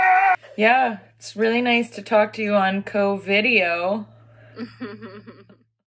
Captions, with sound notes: Yeah, it's really nice to talk to you on co-video. (O.S. laughter.)